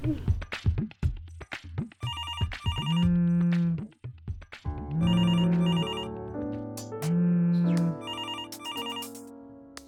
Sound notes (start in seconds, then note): 2.6 phone ringing; 4.7 light piano music